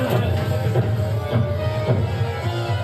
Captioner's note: door banging